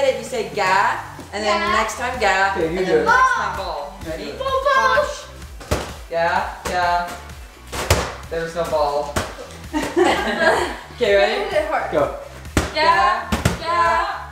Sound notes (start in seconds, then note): 5.5 ball bounces; 7.6 ball bounces; 9.7 laughing; 12.4 ball bounces